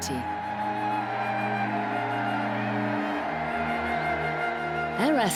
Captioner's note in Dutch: rustige muziek; publiek juicht